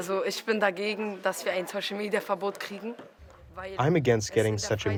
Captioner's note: through translator